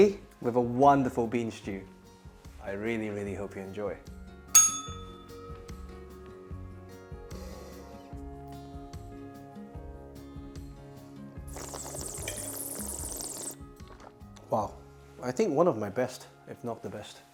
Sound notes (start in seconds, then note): 4.5 bell rings; 11.4 slurps